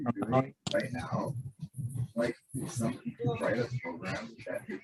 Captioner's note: indistinct background chatter